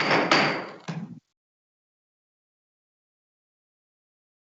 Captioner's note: gavel banging